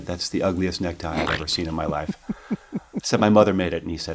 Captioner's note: laughs